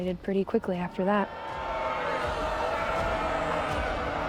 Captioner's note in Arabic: صيحات استهجان الجماهير